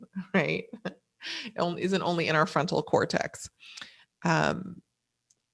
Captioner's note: laughs